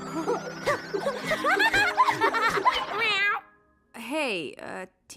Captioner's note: laughing dizzily